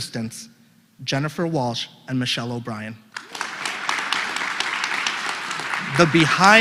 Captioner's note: applause